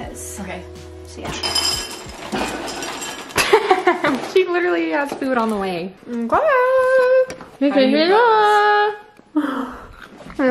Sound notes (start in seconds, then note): 3.4 laughs